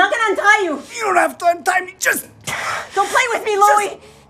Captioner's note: labored breathing